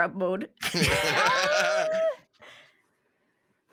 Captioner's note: laughs